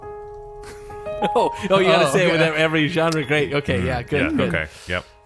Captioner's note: laughing